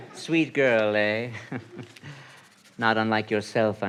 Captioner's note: laughs